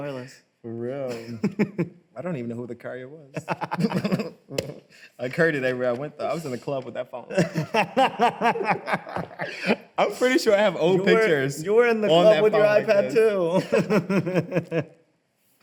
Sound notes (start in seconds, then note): 3.4 both laugh; 7.3 laughs; 13.5 both laugh